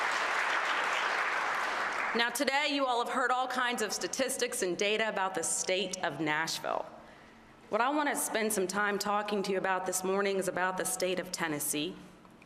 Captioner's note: applause